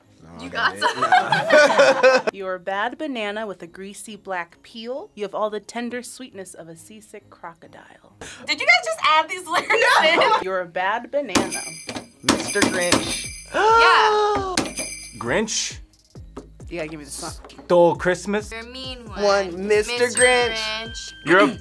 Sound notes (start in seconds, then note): 0.5 both laugh; 9.5 laughs; 11.4 bells jingling; 13.3 gasps; 14.5 bells jingling